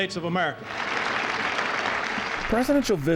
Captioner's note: audience applauds